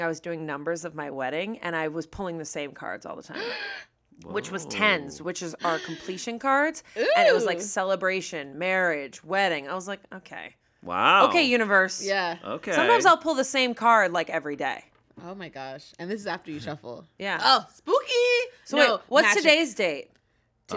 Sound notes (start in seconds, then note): 3.3 gasps